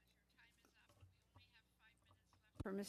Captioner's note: speaking French